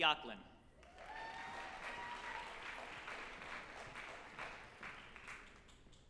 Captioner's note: group applauding and cheering